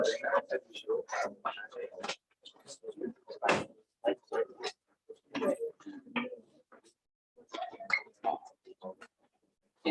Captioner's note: background chatter